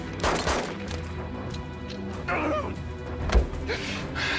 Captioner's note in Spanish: Disparos